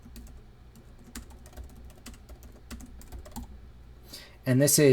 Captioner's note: typing